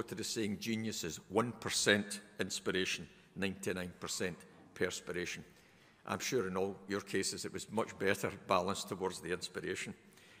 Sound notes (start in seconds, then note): none